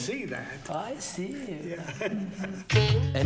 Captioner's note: 笑声; chuckles